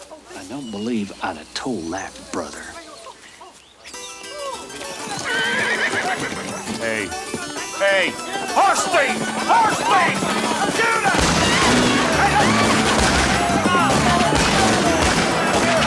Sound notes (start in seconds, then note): 3.9 suspenseful music; 4.8 horse neighs; 10.8 guns fire rapidly; 11.1 gun fires